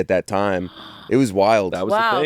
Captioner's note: gasps